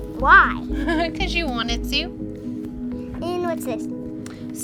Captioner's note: laughs